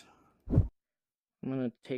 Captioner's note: whoosh